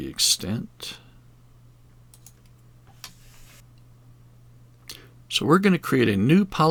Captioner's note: mouse clicking